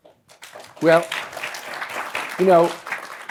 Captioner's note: applause